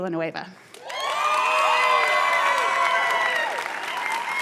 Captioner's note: cheers and applause